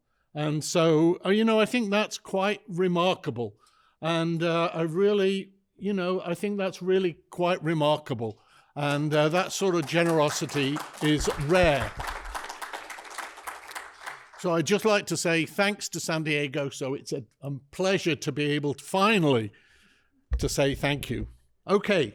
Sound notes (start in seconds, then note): 11.9 applause